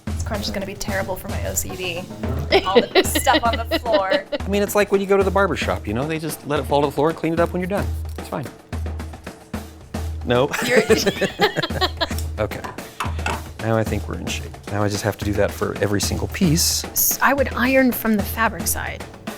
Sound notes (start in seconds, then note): 2.1 laughing; 10.5 laughing